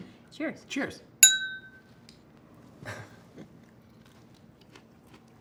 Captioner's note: clinking noise